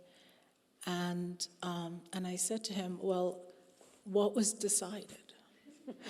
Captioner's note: laughing